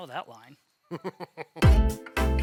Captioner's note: laughing; pleasant music